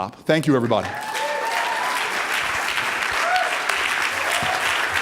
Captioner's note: audience applauding